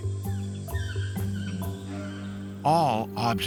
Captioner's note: birds calling